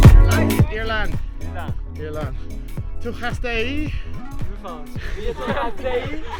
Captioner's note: they speak in a foreign language